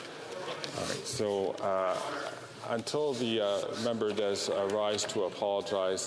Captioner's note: off mic